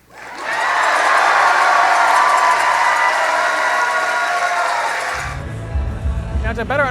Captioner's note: audience cheers loudly